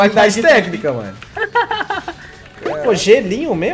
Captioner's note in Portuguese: risos